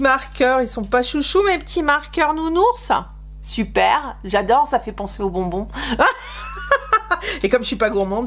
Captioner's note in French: rires